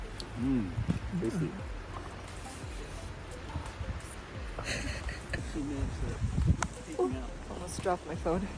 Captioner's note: sips